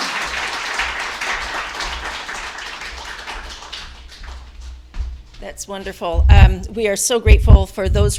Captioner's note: applause